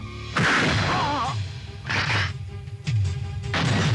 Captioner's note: groans; shotgun fires